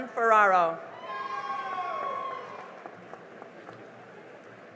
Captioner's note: cheering and applause